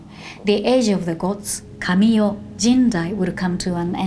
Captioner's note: speaking Japanese